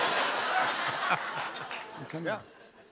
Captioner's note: laughter